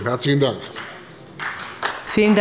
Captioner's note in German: Beifall bei der CDU